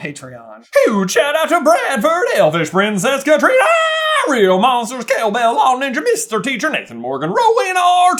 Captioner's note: aaah!